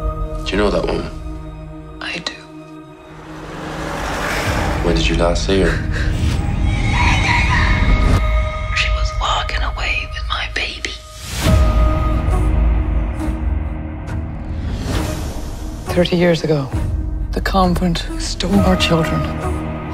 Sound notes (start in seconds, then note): 6.7 screaming; 8.2 whispering; 11.1 intense music playing